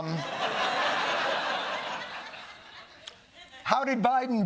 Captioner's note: laughter